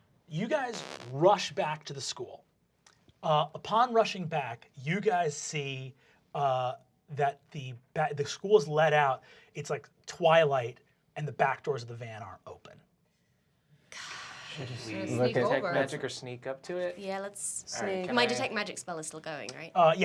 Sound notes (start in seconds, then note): 14.1 sighs